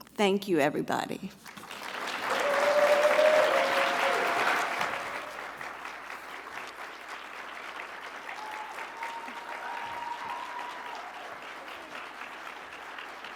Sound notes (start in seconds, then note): 2.3 audience clapping